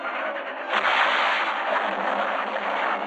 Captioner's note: train crashing